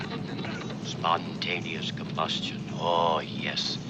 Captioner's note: radio voice